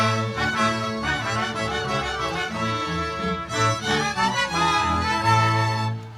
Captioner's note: none